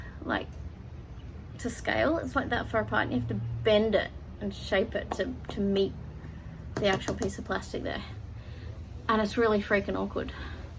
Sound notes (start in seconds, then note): 6.7 taps plastic